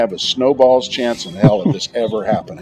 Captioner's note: laughter